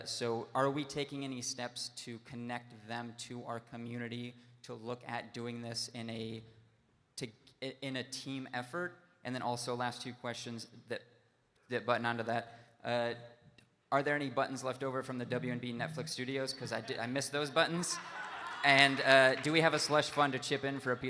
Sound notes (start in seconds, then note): 17.7 audience laughing